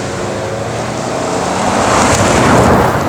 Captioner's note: engine rpm grow